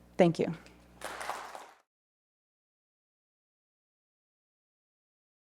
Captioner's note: audience applauding